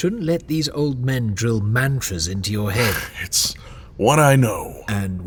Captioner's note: sarcastic